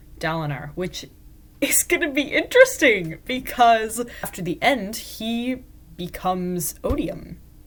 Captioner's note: excitedly